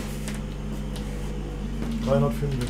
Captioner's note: soft humming